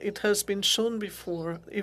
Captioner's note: speaking French